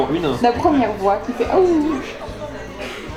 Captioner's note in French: awouwouuuh